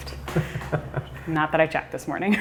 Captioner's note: laughter